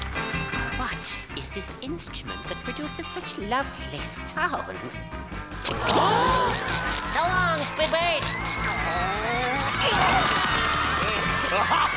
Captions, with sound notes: What is this instrument that produces such lovely sound? [gasping] So long, Squidward! [growling] [screaming]